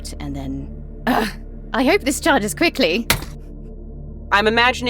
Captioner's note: thud